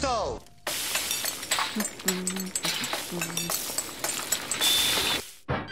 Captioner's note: cooking Noises